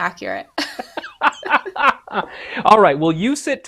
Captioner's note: laughs